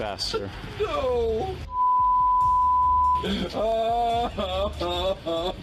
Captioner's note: sobbing